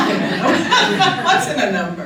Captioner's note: laughter